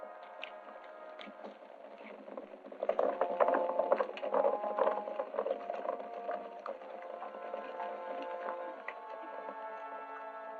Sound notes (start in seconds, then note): 2.8 hooves clattering; 8.7 suspenseful music